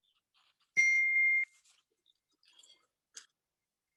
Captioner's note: phone beeps